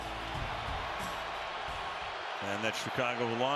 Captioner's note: cheering